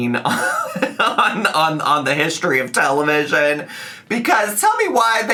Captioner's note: laughing